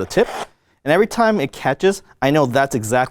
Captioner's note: paper rasps